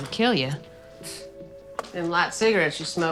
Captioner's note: scoffs